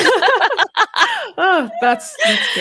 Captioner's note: both laughing